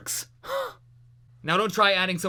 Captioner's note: exhale